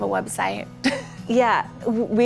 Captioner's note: laughs